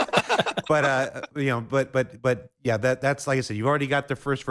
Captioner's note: laughing